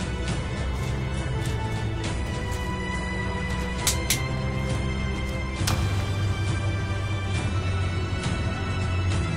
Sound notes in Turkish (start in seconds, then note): 3.8 Çalı Sesi